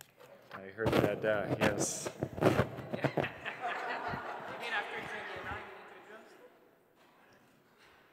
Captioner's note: laughter